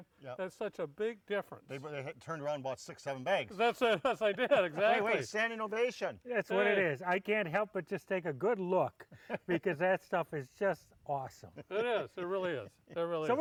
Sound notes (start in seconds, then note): 3.5 laughs